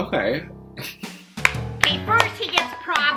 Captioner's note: clapping